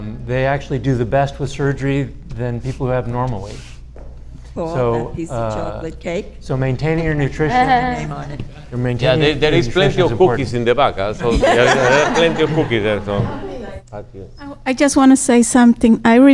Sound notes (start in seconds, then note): 10.3 audience laughs